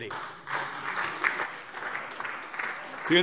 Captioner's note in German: Beifall SPD